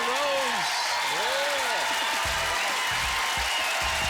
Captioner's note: cheers and applause